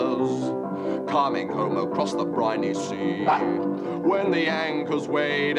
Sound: dog yaps

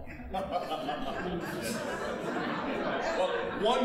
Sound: chuckling heartily; audience laughing

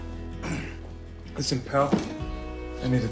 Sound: clears throat

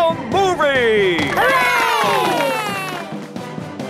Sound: heroic music; applause

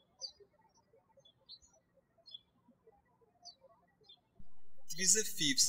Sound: birds chirping

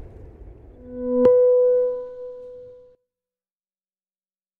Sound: sonic wave

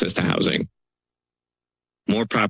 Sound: pause

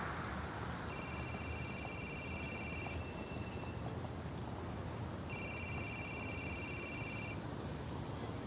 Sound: phone ringing

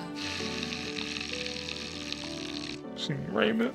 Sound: blowing raspberries

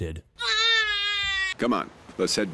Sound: baby crying noises

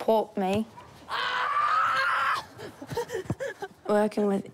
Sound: screams, laughs

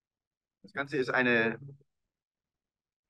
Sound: speaking german

